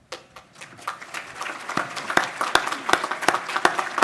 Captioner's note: audience applause